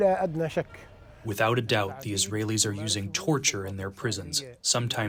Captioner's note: through translator